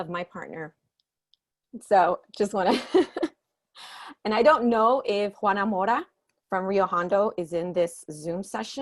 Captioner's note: chuckling